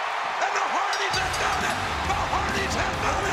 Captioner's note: audience cheering; upbeat music; bell ringing